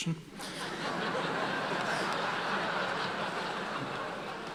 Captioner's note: audience laughing